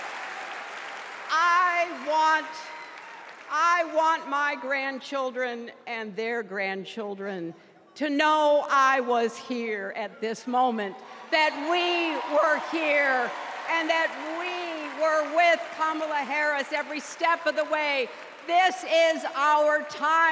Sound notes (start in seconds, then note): 2.2 cheers and applause